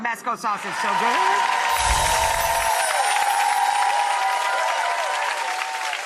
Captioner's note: audience applauding